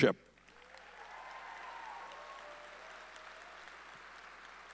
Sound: audience cheering

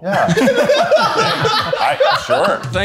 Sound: laughing

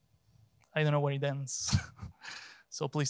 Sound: laughs

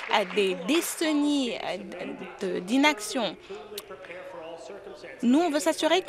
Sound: applause

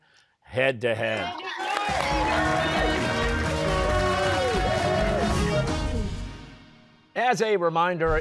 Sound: cheers and applause

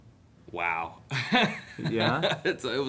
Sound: laughing

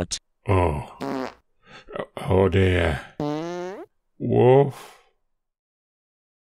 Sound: fart noise; longer fart noise

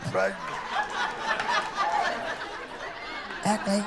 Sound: laughter

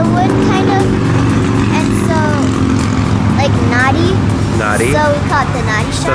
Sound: motorcycles roaring

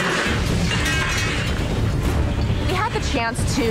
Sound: metal clanging

